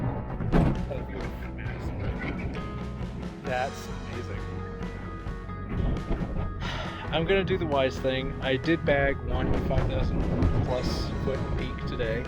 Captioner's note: sigh